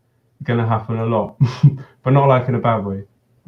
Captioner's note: chuckles